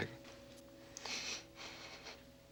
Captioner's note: breath trembling